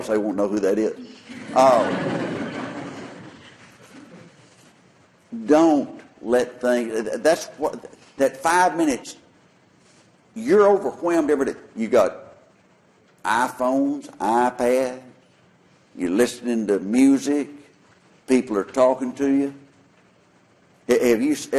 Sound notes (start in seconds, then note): 1.1 laughter